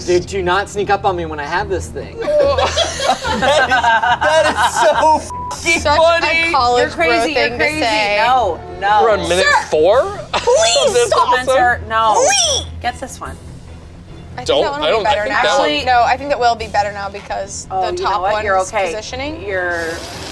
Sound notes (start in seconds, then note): 2.2 group laughs; 5.2 beep